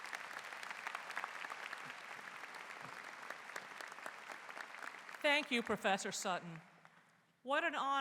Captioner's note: applause